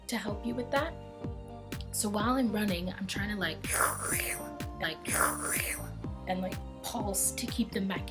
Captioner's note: slurping/sucking sounds